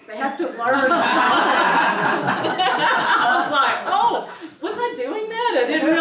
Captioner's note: laugh